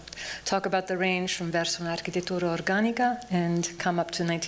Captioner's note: non-english speech